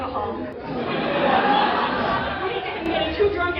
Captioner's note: laughter